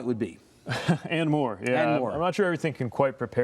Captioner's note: laughing